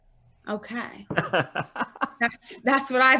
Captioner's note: laughing loudly